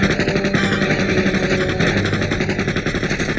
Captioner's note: gunshots fire